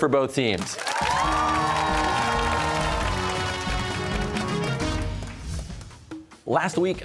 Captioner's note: cheers and applause